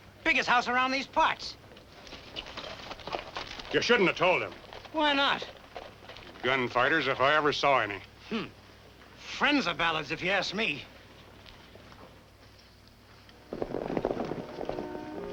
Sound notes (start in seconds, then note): 8.5 scoffs; 13.6 horses galloping